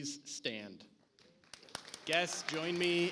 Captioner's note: audience applauds